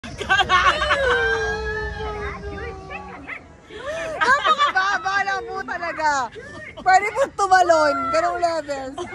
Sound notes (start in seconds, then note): 0.6 screams